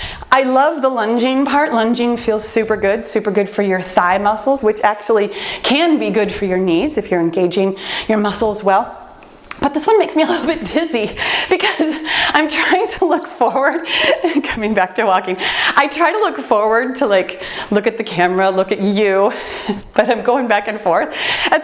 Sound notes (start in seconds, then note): 12.8 timer beeps; 13.3 laughs